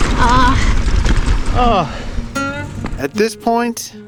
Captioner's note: both grunting